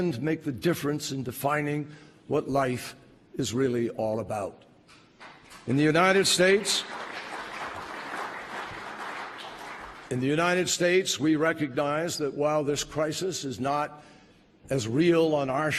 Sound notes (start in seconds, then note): 5.2 applause